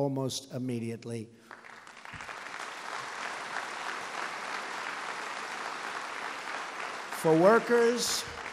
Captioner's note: applause